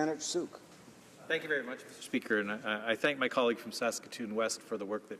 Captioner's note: speaking French